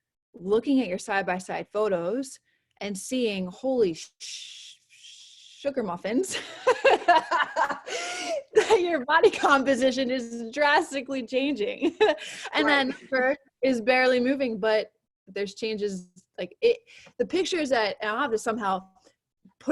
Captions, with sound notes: looking at your side by side photos, and seeing holy sugar muffins, (laughs) that your body composition is drastically changing. And then part is barely moving but there's changes, the pictures that, and I have to somehow,